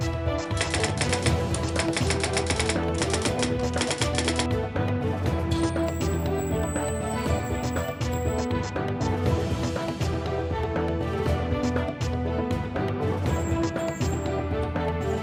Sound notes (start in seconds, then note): 0.6 typewriter keys clacking; 5.1 upbeat, dark dramatic synthesizer music